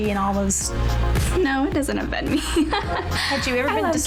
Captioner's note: laughs